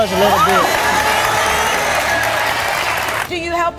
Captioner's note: audience applauding